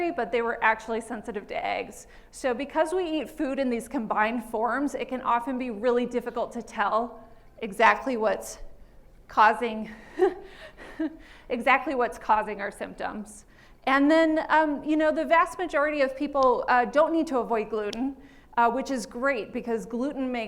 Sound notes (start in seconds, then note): 9.7 laughs